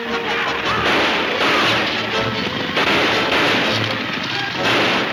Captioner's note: gunshots banging